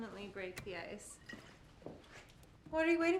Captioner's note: liquid sloshing